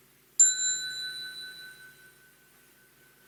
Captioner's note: small bell